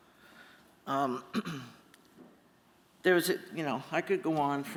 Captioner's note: clears throat